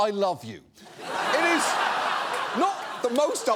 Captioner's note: audience laughs